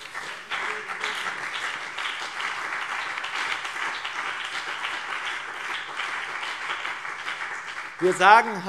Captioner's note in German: Beifall BÜNDNIS 90/DIE GRÜNEN und CDU